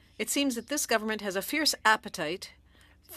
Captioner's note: speaking French